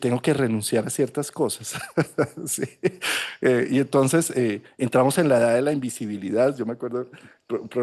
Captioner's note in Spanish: risas